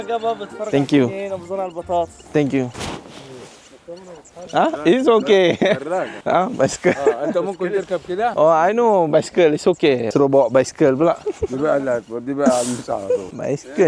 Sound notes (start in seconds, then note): 0.1 speaking Arabic; 3.1 laugh; 4.0 speaking Arabic